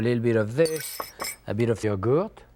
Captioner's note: glass clinks